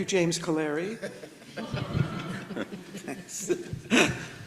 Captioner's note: everybody laughs